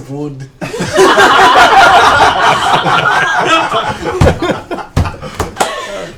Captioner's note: laughter